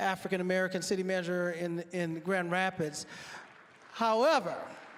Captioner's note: applause